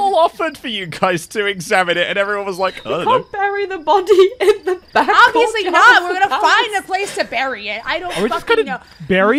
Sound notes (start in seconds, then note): 3.8 laughing